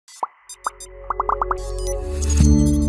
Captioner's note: gentle music; logo popping